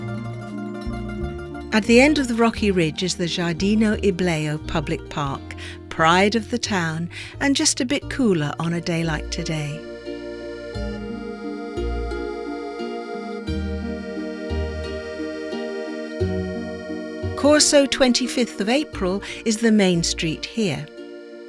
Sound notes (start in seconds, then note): none